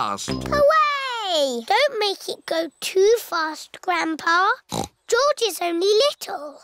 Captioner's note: snorts